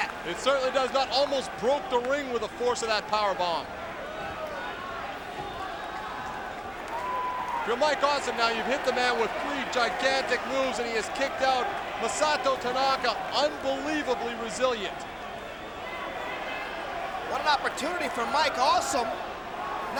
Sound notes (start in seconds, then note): 4.1 crowd chattering